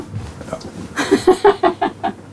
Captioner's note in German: Sie lacht